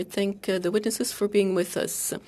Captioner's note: speaking French